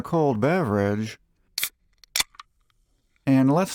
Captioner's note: beer opening sound